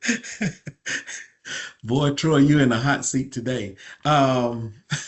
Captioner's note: laughter